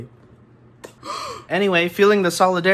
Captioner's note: gasspp